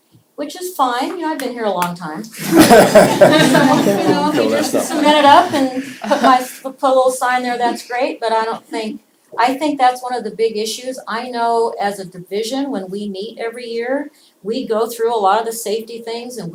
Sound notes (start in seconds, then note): 2.3 laughter